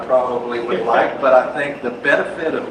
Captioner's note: laughs